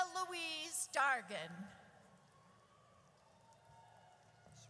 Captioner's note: audience cheers